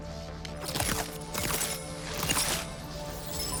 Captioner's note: crackling